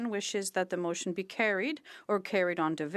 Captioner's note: speaking French